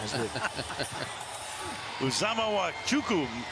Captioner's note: laughing